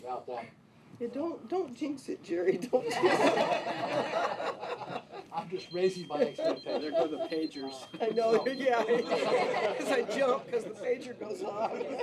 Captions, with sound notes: - Yeah, don't. Don't jinx it, Jerry. (all laughing) - I'm just racing by. There go the pagers. - I know, yeah. As I jump, 'cause the pager goes off.